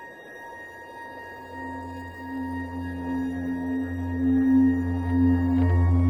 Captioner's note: gentle music continues; wind blowing continues